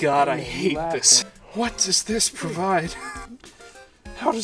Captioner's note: wheezing